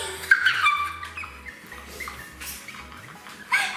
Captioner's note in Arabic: يضحك